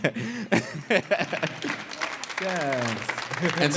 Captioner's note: laughs; audience claps; laughs